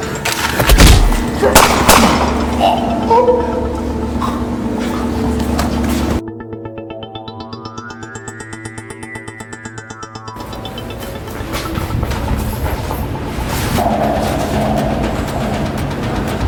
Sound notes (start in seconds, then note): 0.6 gun thuds; 1.5 gun fires; 2.3 thug choking; 10.6 footsteps tapping